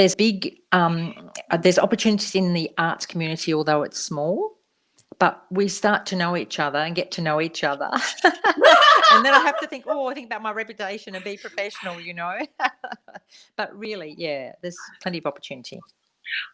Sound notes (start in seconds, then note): 10.6 laughter